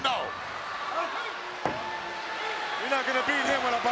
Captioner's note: crowd yelling